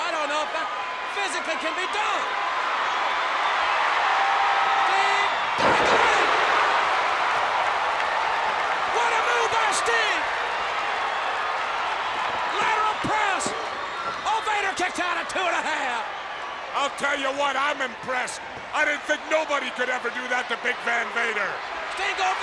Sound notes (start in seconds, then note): 6.5 audience cheers